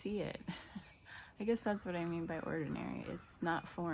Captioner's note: laughs